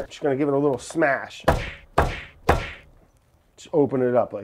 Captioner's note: punches crashing